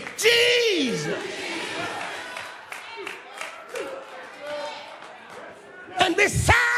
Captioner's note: applause